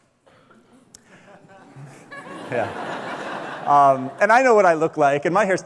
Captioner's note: audience laughs